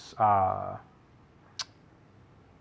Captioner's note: tsk